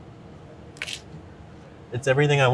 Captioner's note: vegetables crunching